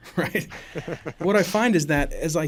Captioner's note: laughing